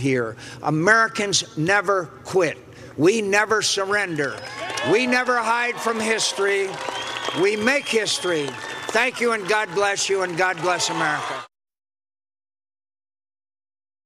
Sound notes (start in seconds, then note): 6.4 cheers and applause